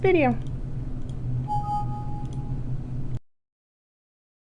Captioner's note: computer beeps